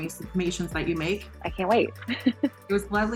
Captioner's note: laughs